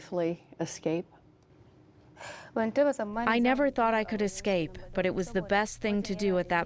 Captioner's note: through translator